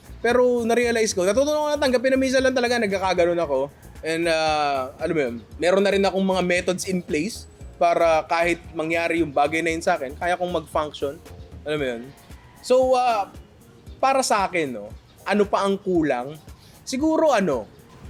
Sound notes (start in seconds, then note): none